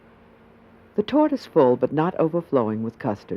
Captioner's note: voiceover